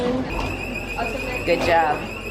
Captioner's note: alarm beeping